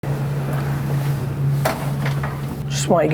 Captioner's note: hum